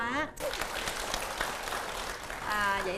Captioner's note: applause